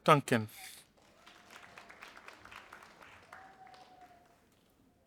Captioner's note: audience applauding